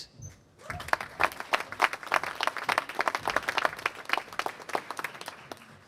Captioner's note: applause